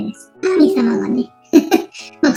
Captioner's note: laughs